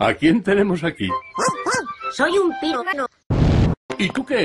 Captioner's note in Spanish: Ladrido